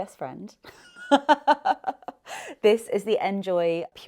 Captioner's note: laughing